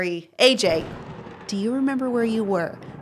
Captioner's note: thunder rumbling